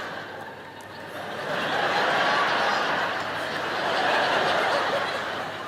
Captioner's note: audience laughing